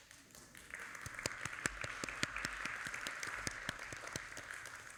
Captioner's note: audience applauding